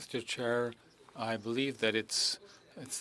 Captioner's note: speaking French